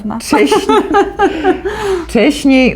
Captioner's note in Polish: śmieje się